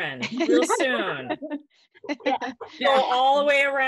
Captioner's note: laughs